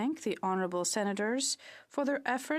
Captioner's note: speaking French